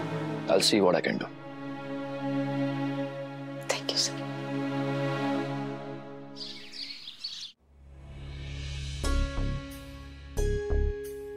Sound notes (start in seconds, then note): 6.3 birds chirping; 7.6 suspenseful music playing